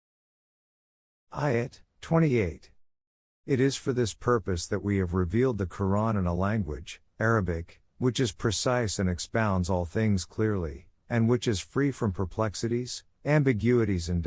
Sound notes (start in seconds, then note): 7.5 Arabic